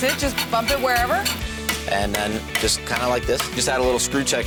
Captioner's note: hammering